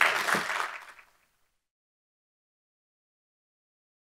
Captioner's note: audience applauding